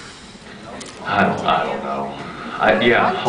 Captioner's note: off mic